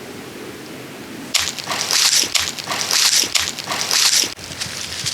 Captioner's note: leaves crunch